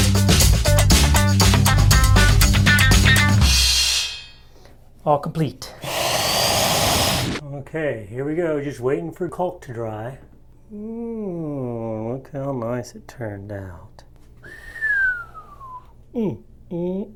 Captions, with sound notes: All complete. (saw whirs) Okay, here we go, just waiting for the caulk to dry. Mmmm, look how nice it turned out. (whistles)